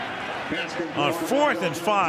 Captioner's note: pa announcement